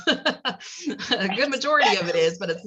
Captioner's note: laugh